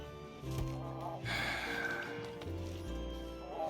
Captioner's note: sigh